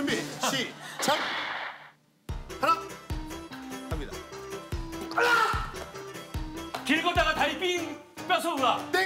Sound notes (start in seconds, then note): 1.0 hitting the door and OMG